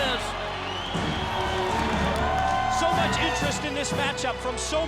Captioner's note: crowd cheering